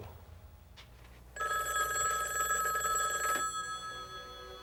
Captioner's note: phone ringing